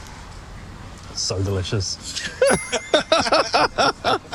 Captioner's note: laughs